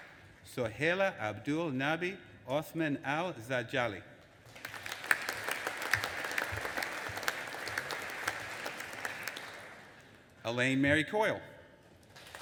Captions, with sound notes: Sohaila AbdulNabi Othman Al Zadjali. (AUDIENCE APPLAUDING) Elaine Mary Coyle.